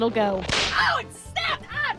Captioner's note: snap